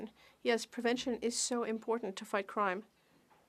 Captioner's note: speaking French